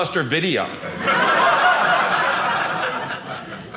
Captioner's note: audience laughing